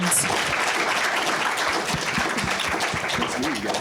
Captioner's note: applause